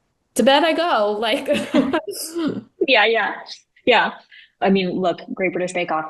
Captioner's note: laughing